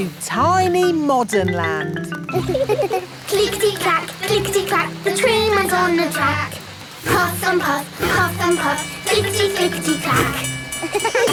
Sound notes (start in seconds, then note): 2.3 laughing